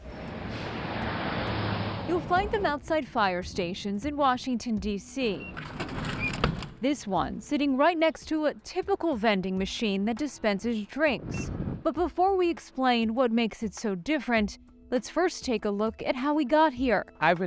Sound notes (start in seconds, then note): 0.0 car whooshing; 5.3 button beeps; 5.6 item rumbling